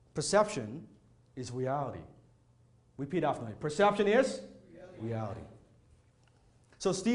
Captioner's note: none